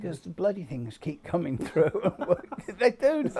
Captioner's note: chuckling